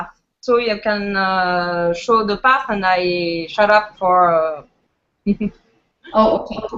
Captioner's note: giggles